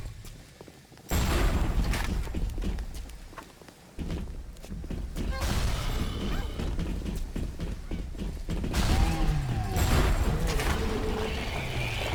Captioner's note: thunder